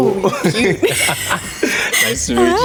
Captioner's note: laughing